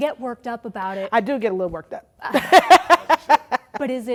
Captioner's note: laughing